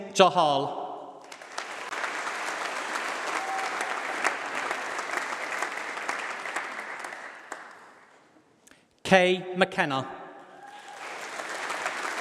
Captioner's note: applause